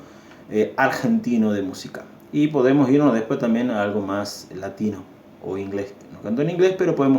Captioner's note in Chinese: 英语